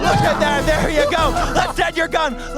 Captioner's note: laughs